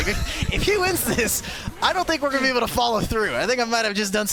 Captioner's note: laughter